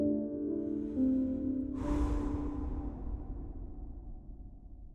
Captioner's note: wind blowing